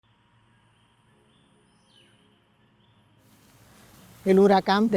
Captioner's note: birds chirping; canto de los pájaros